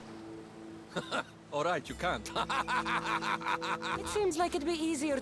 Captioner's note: laugh; laughing